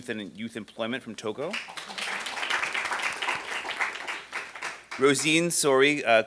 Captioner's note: applause